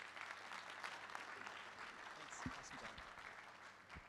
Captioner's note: applause